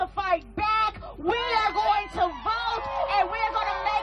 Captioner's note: crowd cheering